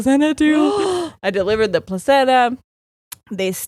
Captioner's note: gasping